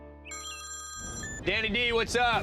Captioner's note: phone rings